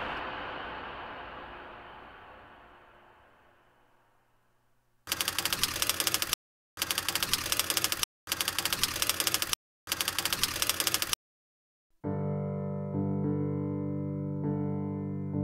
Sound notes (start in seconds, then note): 5.1 typewriter clicking; 12.0 dramatic piano music